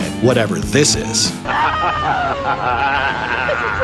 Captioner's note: screaming